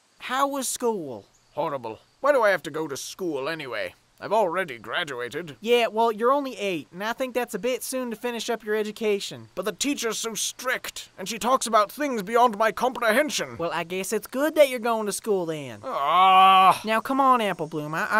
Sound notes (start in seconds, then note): 15.8 gen. bloom groans